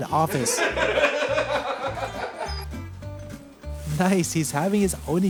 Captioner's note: laughs